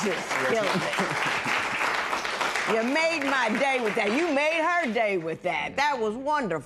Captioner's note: applause